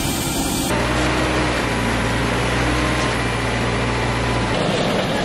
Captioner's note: machine whirring